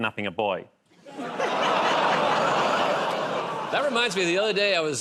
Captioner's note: laughter, audience "Oh"s